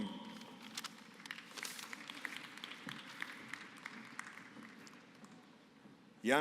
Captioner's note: applause